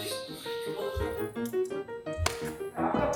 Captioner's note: tapping